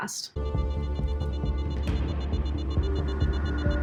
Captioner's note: alarm beeping